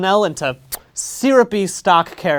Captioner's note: kiss